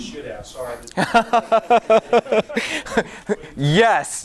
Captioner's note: laughing